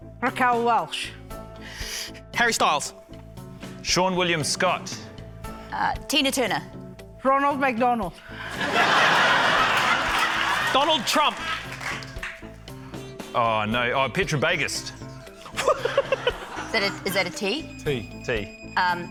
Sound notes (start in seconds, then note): 8.4 laughter; 15.5 laughs